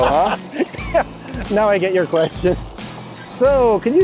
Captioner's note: laughs